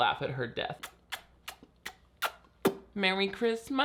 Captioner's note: smooching air kisses